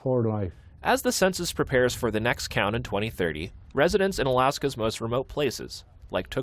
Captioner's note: voice-over